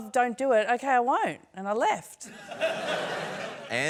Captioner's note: laughter